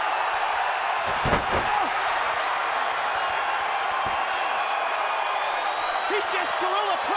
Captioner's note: crowd cheering